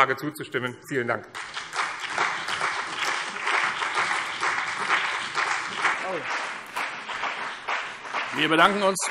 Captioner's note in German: Beifall BÜNDNIS 90/DIE GRÜNEN und CDU